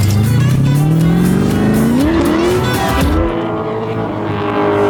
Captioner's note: car engine revving